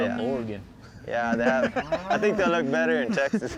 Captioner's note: laughter